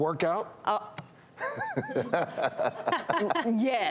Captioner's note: laughing